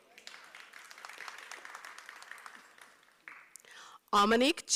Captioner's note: applause